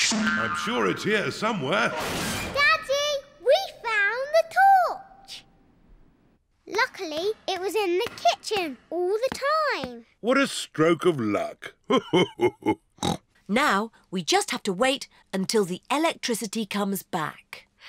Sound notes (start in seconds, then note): 11.8 laughs; 12.8 snorts